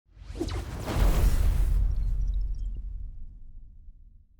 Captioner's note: digital explosion